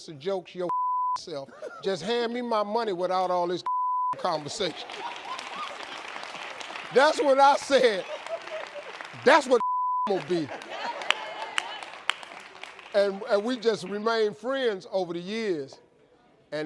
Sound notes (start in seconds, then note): 4.2 audience laughs; 11.9 audience claps